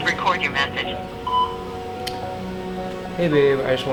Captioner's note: beep